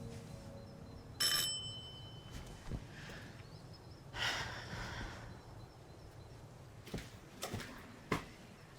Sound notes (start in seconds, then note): 1.1 doorbell rings; 4.1 Claire sighs